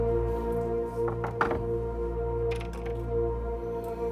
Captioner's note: suspenseful music; hand knocking